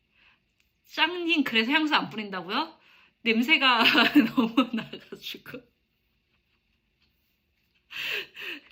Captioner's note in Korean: 웃음